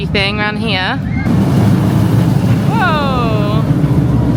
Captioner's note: rollercoaster swooshing